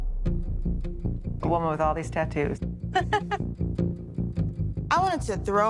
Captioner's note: laughs